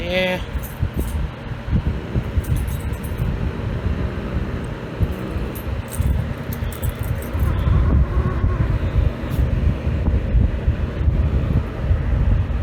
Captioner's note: Caprice growls